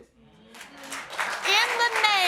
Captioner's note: audience applauding